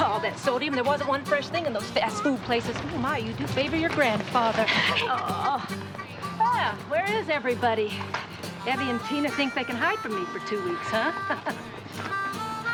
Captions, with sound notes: All that sodium, there wasn't one fresh thing in those fast-food places. Oh, my, you do favor your grandfather. Oh! Well, where is everybody? Evie and Tina think they can hide from me for two weeks, huh? (LAUGHS)